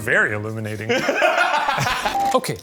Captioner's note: laughing